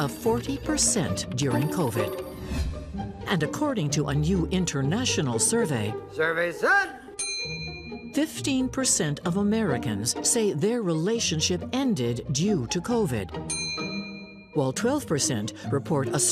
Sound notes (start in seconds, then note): 7.2 phone rings